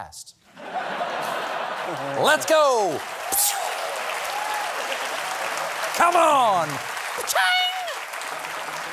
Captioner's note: laughter